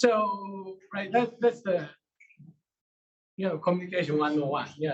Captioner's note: male Voice